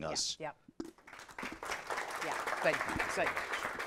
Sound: audience applauding

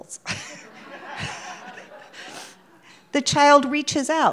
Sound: audience laughing

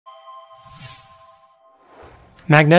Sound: logo sound

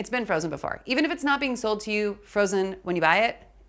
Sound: none

